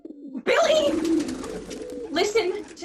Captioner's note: the sounds of pigeons